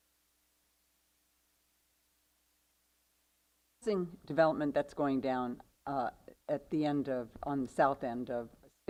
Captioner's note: microphone off-no sound